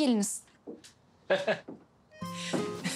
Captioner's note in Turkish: Gülüyor